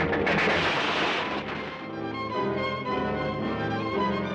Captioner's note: loud crash